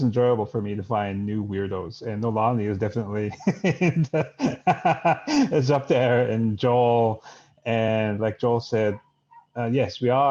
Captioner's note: laughs